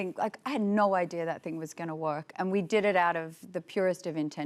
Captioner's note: none